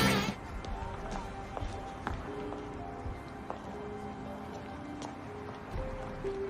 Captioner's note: brooding music; group chattering